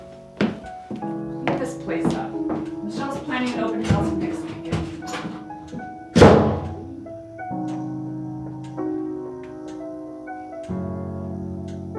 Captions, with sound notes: Clean this place up. Michelle's planning an open house next weekend. (door slams) (clock ticking)